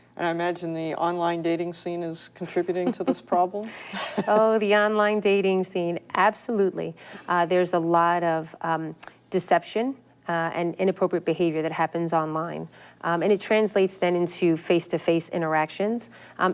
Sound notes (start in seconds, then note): 3.9 laughs